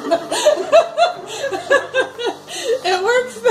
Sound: laughs

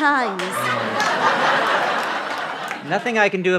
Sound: laughter

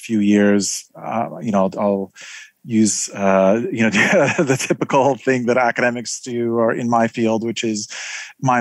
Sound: laugh

